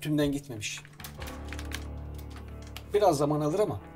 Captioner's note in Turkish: Klavye sesleri